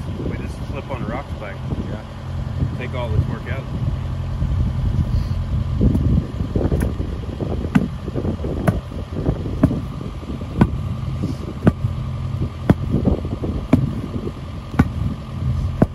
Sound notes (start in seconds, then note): 9.5 rammer whacking the wood